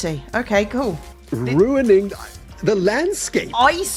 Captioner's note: stammers